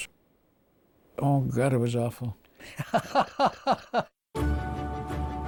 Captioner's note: chuckles heartily